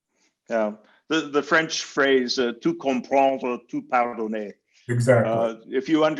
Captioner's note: in foreign language